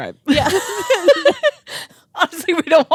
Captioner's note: both laughing